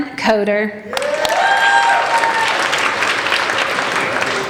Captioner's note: applauding